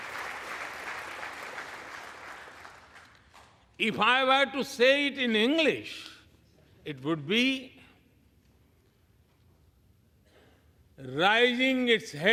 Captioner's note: applause